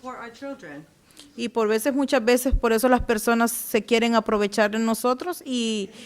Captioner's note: speaking Spanish